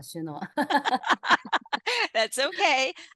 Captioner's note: people laugh